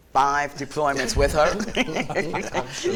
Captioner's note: laughs